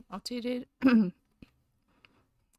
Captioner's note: clears throat